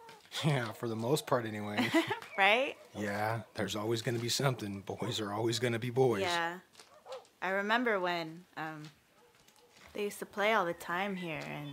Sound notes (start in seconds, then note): 1.4 laughs